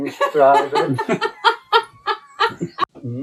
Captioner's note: laughter